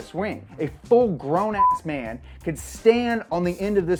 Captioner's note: beep